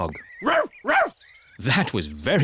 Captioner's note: barks